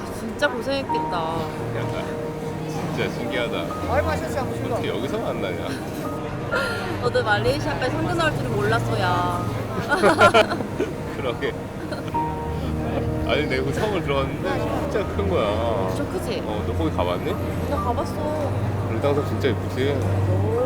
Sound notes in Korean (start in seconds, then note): 9.6 웃음